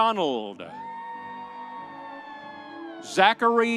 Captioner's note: audience cheering